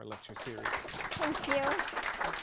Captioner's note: audience applause